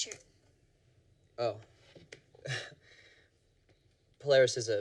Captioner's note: laughs